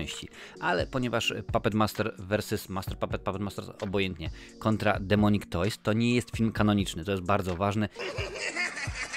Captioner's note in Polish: śmiech